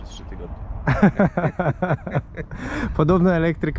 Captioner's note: laughter